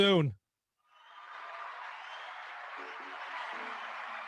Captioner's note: audience cheering